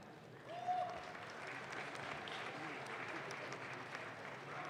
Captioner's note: audience claps